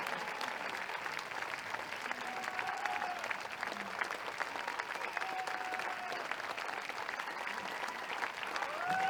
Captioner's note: audience applauds/cheers